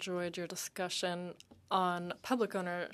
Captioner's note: speaking French